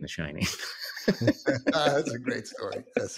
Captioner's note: both laugh